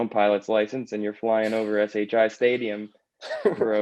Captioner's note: laughter